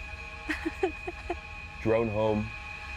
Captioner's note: Lina laughs